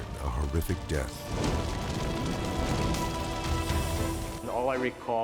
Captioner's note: fire whooshes